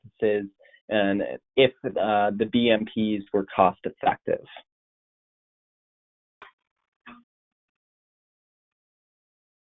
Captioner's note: silence